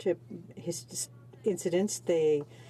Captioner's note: speaking in french